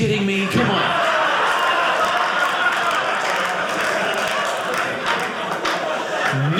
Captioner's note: audience laughing